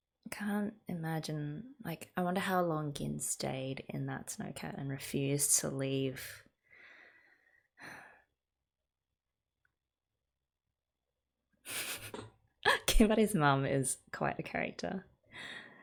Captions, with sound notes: I can't imagine, like - I wonder how long Gin stayed in that snow cat and refused to leave. [laughs] Kimari's mom is quite a character.